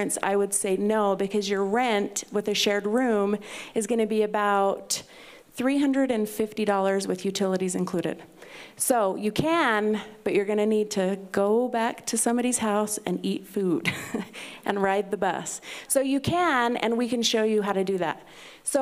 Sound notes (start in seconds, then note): 14.0 laughs